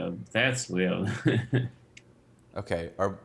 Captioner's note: chuckles